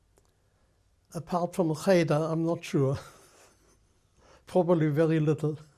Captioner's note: laughs